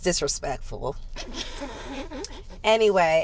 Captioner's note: laughing